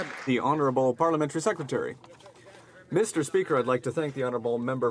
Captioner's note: some Applause